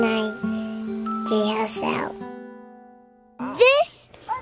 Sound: chatting

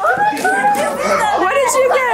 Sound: family chatters excitedly

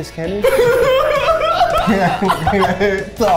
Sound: crew laughing

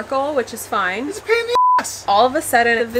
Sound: beep

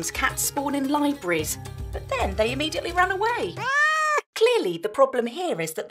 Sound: meow

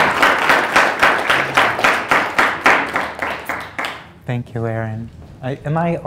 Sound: applause

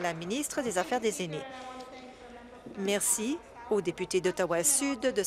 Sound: applause

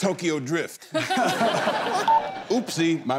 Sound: laughter

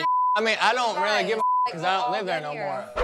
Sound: beep

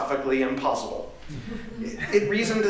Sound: laughter

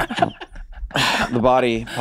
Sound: laughing

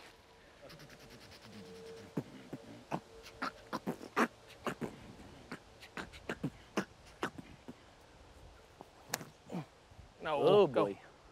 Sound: beat boxing

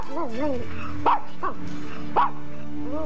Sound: barking

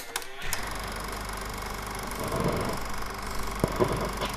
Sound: tape rolling

